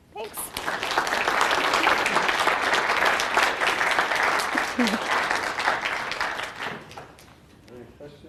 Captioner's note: applause